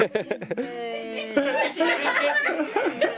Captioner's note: laughing